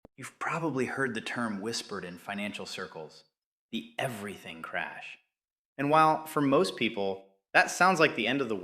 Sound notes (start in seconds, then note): 0.0 whispers